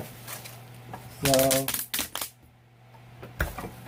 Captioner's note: crackling